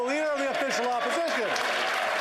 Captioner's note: applause